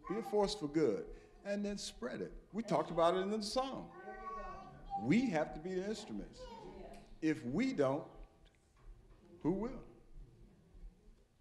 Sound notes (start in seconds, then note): none